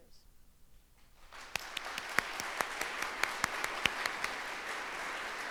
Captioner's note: audience applauds